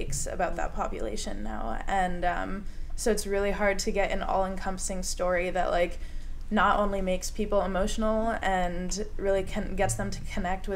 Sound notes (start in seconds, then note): none